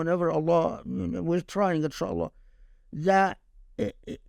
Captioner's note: speaking Arabic; speaking Arabic